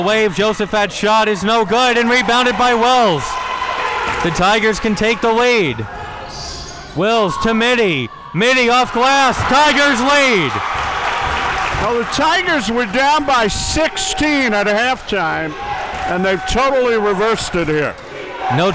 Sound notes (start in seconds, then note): 10.9 audience applauding and cheering